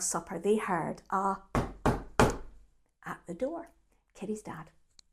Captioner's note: knock, knock, knock